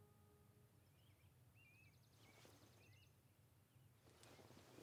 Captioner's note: birds chirping